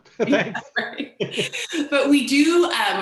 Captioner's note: both laugh